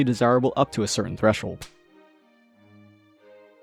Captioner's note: smack